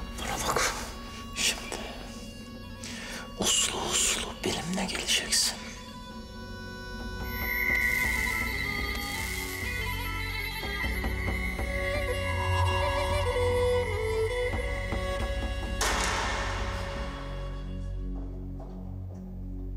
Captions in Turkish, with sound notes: Bana bak, şimdi uslu uslu benimle geleceksin. [Kapı açılır.]